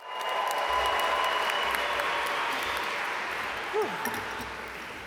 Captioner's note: audience cheer and applaud